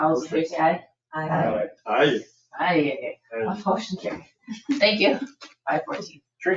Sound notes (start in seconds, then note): 4.5 people chattering